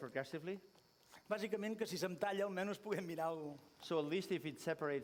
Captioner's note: non-english speech